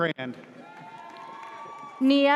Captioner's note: audience cheers